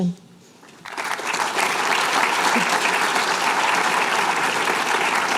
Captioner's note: applause